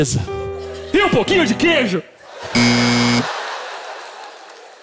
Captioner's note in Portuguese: campainha